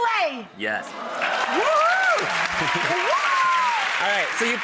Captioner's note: audience cheers & applauds